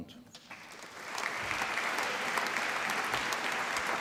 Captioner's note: applause